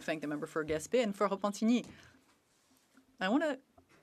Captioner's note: speaking French